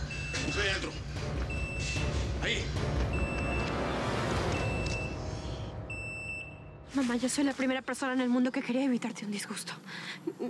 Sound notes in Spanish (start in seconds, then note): 4.3 alarma